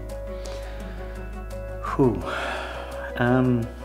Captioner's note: sighs